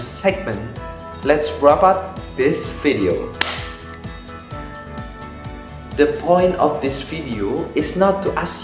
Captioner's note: clap